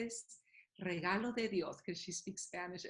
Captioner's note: Spanish